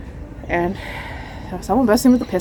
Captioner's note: exhales